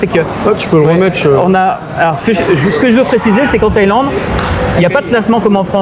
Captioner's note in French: rires